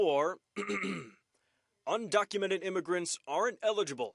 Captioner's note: clears throat